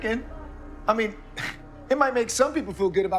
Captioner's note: scoffs